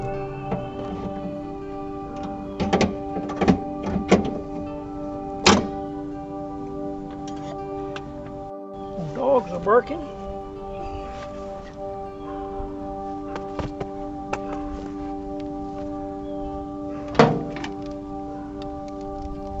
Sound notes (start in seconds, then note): 0.1 ambient music; 2.4 metal clanking; 5.6 ambient music; 17.1 metal clanking; 17.8 ambient music